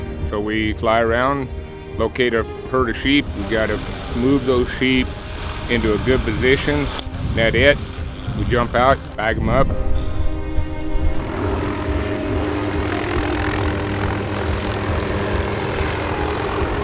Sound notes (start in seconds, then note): 0.0 uplifting violin music; 9.9 uplifting violin music; 12.6 helicopter rotors humming